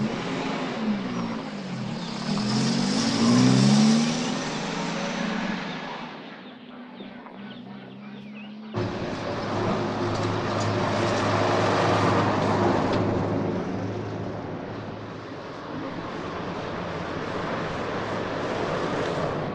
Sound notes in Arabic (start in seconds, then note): 0.8 هدير المحرك